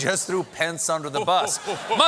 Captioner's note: audience reacts